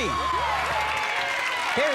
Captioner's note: cheers and applause